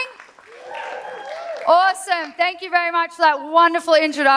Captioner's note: cheers